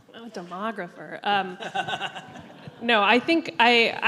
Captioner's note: all laugh